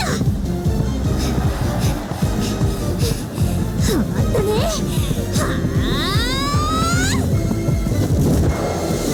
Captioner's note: panting